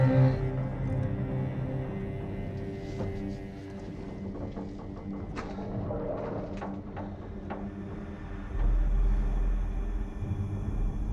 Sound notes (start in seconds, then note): 3.1 eerie music; 3.1 ship creaking